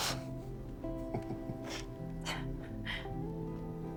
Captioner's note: laughs; chuckles; sighs